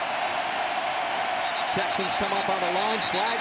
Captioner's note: whistle blows